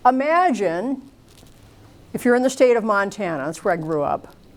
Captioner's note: none